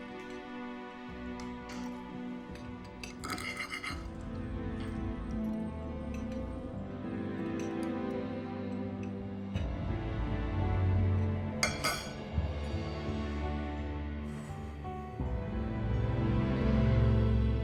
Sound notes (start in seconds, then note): none